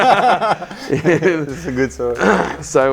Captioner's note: laughing